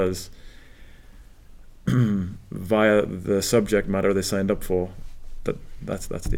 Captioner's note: cough